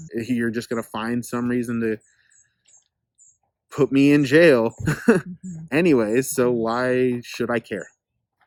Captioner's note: laughs